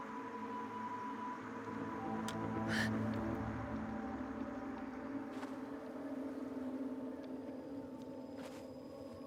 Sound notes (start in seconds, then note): 2.7 gasps